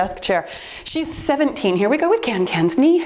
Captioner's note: timer beeps